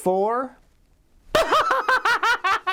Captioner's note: laughs